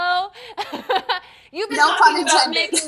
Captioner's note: woman laughing